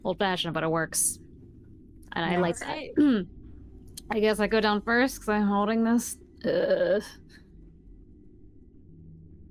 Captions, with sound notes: - Old fashioned but it works- - Sounds great. - and I like that. I guess I go down first cause I'm holding this? (groans)